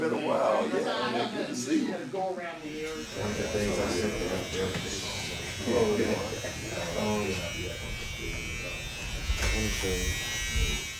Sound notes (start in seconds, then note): 2.6 razor buzzing